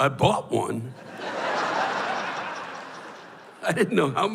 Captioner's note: laughter